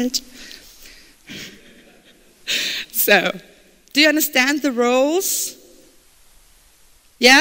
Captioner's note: laughter